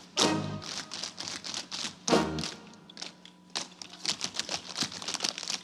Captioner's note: rhythmic tapping continues